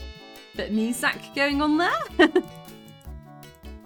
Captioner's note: laughing